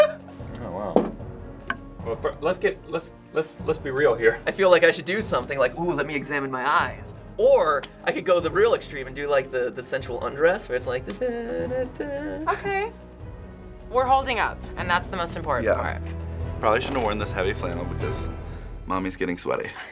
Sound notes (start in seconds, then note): 0.0 giggles; 11.0 vocalizes; 19.7 Finebros snicker